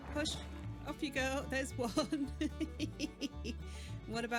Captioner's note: laughing